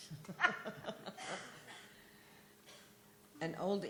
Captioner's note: laughter